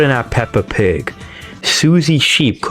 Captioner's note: inhales Oxygen